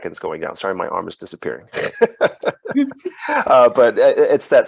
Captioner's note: laughs